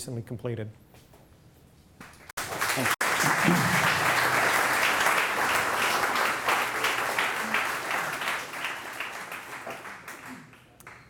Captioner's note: applause